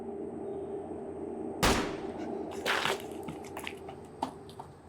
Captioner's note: gunshots blasting